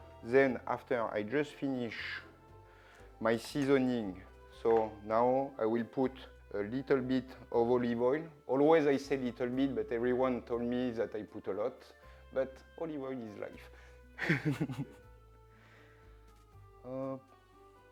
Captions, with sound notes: Then after I just finish my seasoning. So now I will put a little bit of olive oil. Always I say little bit, but everyone told me that I put a lot, but olive oil is life. [chuckles] Up.